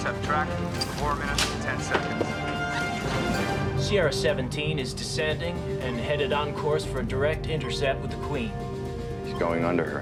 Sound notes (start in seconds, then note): none